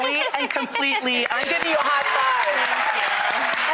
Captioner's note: audience applause